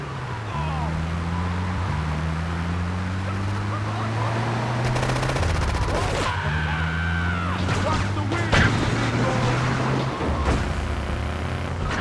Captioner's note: gun firing; speaking in foreign language; yelling